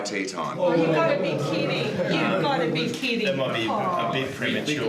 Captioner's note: other jurors murmur disagreement